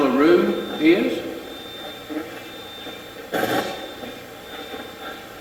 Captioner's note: Steve's Box chatters